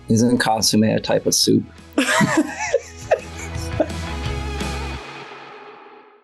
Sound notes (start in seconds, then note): 1.1 upbeat music; 2.0 laughing